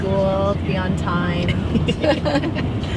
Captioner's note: chuckling